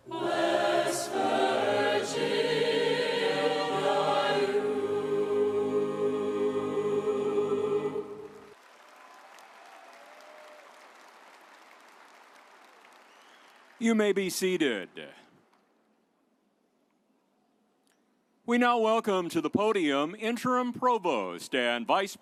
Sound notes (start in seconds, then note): 8.3 audience applauding